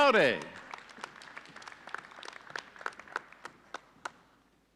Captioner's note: audience applauding